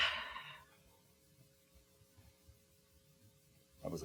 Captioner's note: exhaling